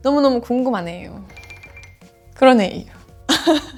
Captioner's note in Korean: 허허